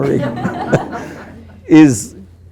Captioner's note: group laughing